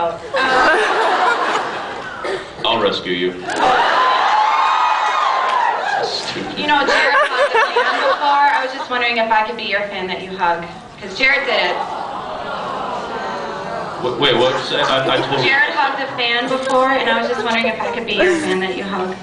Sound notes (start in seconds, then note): 0.3 laughs; 3.5 laughs, screams; 6.7 laughing